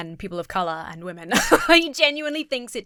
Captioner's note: laughs